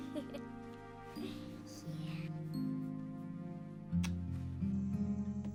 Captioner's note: kisses